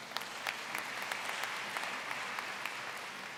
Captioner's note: applause